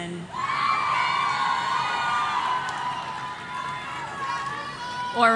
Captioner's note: audience cheering